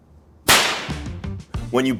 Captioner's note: hands smack; lowkey music